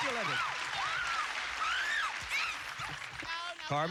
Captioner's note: cheers and applause